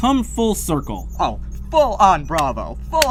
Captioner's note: clapping